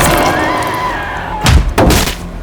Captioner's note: dramatic scary music; Sarah screams; hand strikes; body thuds